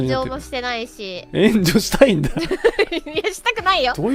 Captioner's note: Matsuri laughs